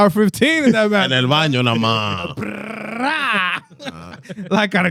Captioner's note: speaking Spanish